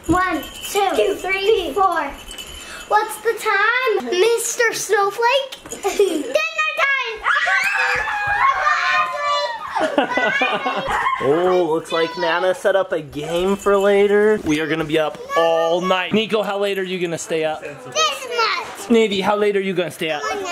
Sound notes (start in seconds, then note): 7.1 children screaming